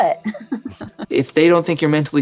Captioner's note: laughing